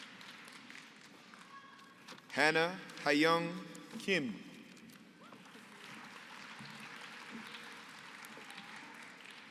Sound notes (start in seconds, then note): 5.3 applause